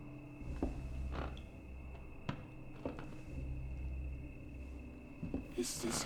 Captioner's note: floorboards creaking